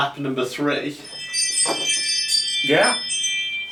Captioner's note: wind chimes ring